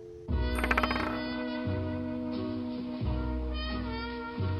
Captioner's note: coin spinning